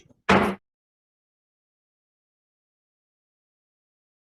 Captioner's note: banging gavel